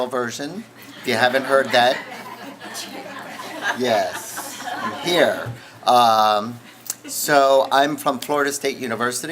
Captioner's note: laughing from audience